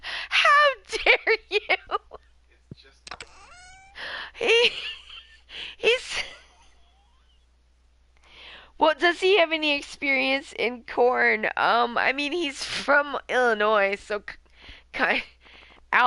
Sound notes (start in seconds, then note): 3.2 laughing